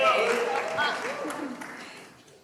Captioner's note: cheers